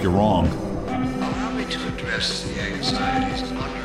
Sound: alarm blaring

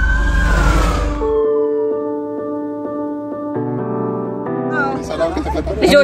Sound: A police car siren; crowd noise

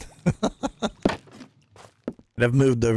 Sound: laughs

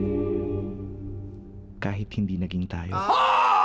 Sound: man speaks Filipino

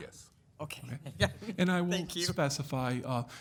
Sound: chuckling

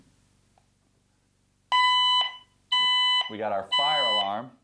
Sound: alarm beeping

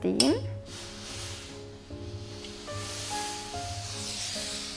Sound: iron hisses

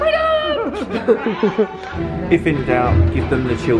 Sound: laughs

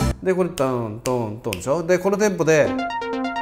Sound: snap snap snap

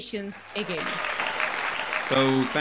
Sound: crowd cheering

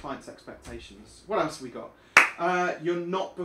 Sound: clap

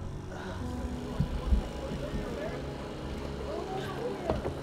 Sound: engine whirring

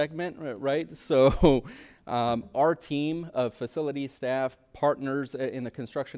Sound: chuckles

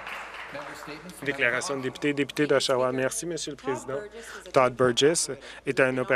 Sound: applause

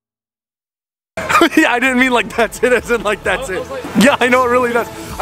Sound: laughs

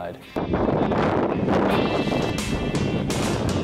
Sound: wind whooshing; upbeat music

